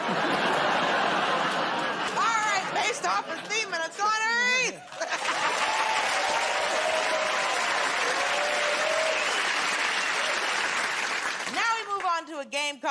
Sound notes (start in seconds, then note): 0.0 laughter; 7.4 cheers and applause